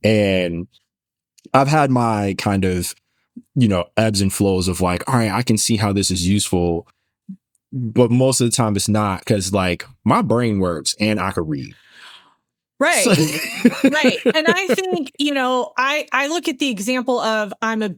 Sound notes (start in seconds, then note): 12.9 laughing